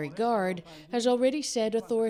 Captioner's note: speaking foreign language